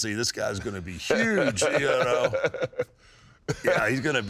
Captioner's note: Kane laughs